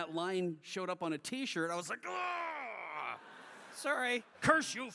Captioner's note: screams